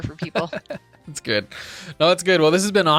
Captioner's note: laughing